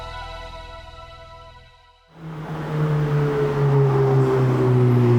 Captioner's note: engine revving